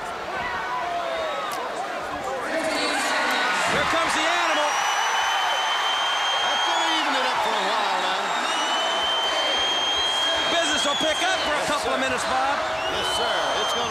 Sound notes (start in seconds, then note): 3.2 crowd cheering; 7.9 crowd cheering